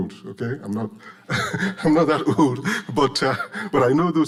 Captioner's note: laughing